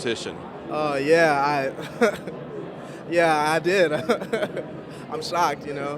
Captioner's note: chuckles